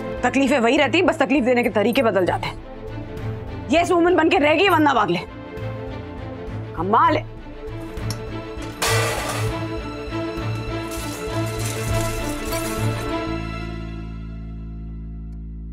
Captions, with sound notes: Issues remain the same, only the way to create issues change! Vandana Wagle has become just a 'yes woman'! Amazing! [dishes clattering] [tense music playing]